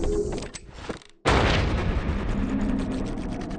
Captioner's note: gunshot